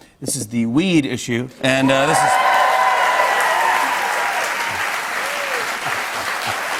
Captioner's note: cheers and applause; both laugh